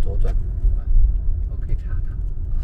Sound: car

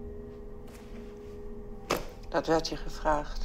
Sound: female interviewer speaking German

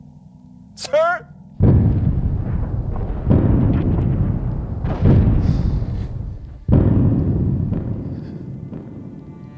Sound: explosions erupt

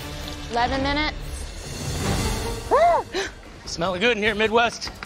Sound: groans

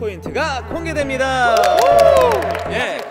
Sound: clap clap

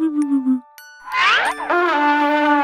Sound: cartoonish whooshing; trumpet blaring

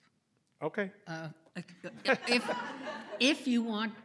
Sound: laughter

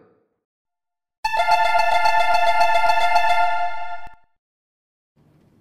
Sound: door closing chime

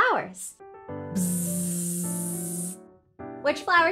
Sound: buzzing

